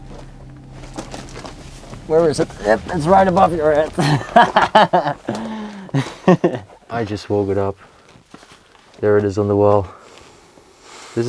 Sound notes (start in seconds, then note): 6.3 laughs